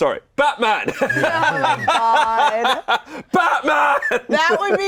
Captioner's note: all laughing